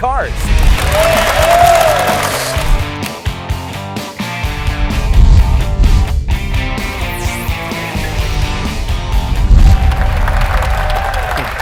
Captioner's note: applause